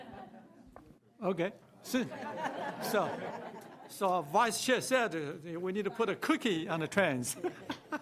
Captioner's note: laughter; laughter